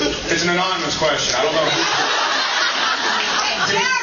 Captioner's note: laughs